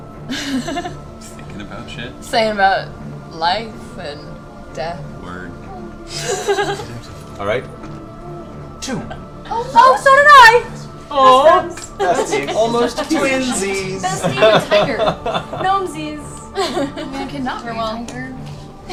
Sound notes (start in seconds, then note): 6.0 laughs; 16.2 laughter